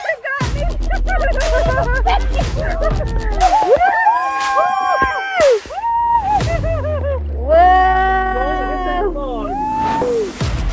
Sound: laughing & Screaming; excitement & Screaming

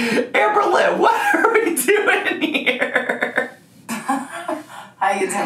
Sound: laughing; giggling

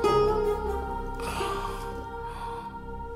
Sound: sighs

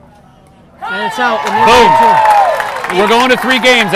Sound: audience applauding and cheering

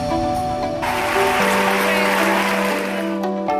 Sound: clapping

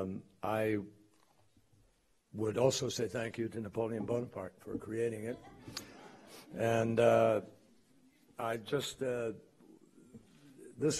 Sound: laughter

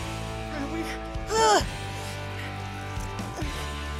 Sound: grunts

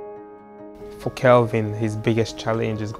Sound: on phone

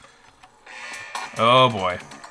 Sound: alarm blaring

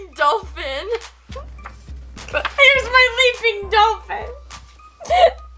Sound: laughs

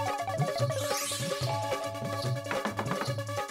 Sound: doorbell ringing

